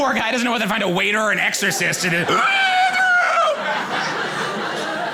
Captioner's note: gasps loudly